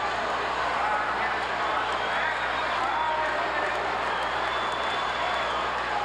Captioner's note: audience cheering continues